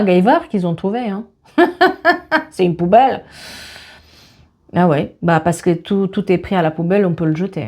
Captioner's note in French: rires